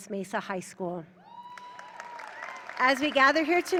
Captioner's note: audience cheering